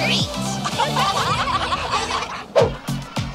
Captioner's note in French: Rires